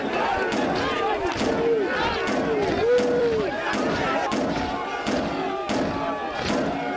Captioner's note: metal banging continues; people shouting continues